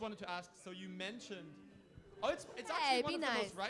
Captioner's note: booing